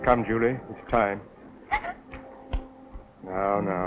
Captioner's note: whimper